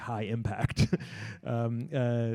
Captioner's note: laughs